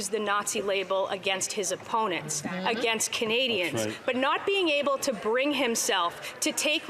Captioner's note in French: voix de l'interprète